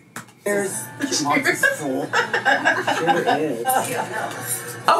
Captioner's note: both women laughing